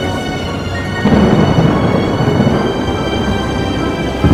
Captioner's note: thunder rumbling